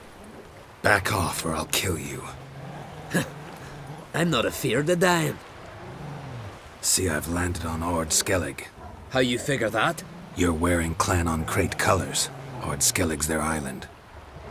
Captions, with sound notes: Back off or I'll kill you. [scoffs] I'm not afeard of dyin'. See I've landed on Ard Skellig. How you figure that? You're wearing Clan an Craite colors. Ard Skellig's their island.